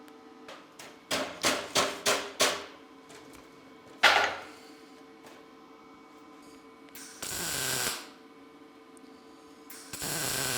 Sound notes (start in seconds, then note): 1.4 hammer tapping; 7.4 sparks hissing